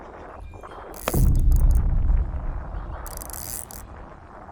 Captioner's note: dramatic boom; reel noises